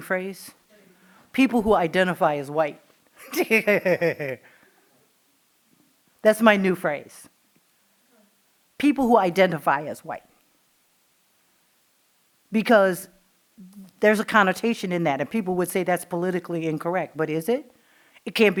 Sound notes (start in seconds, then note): 3.2 laughing